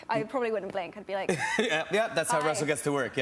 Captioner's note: laughs